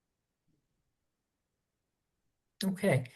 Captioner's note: pause